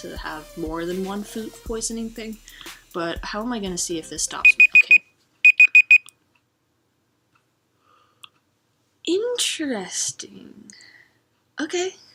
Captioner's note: BEEP bEEP bEEP bEEP